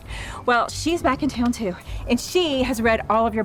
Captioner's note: none